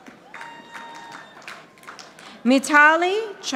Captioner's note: audience applauding